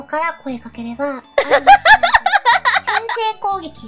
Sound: laughing

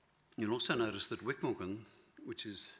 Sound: none

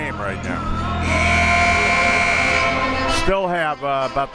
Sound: buzzer

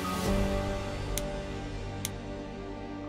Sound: pen clicks

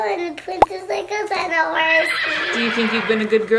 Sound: horse whinnies

